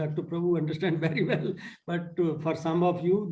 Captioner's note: laughter